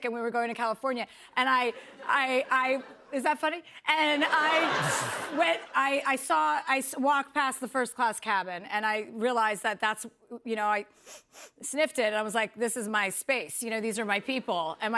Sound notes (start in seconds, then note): 4.0 laughter; 11.0 sniffs